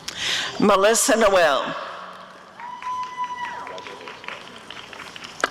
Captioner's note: applause and cheering